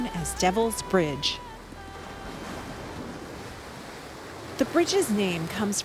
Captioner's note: waves crashing